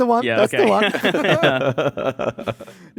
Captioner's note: laughs